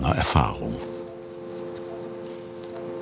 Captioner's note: low machine whirring